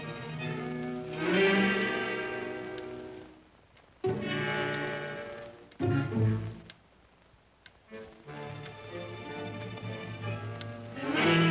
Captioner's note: ominous whimsical music; clock ticking